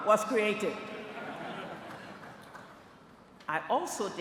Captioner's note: laughter